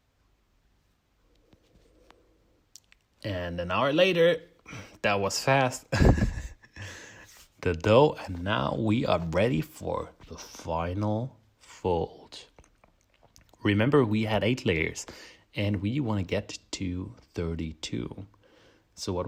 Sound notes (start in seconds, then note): 5.9 laughs